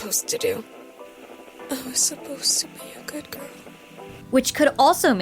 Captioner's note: VANESSA, faintly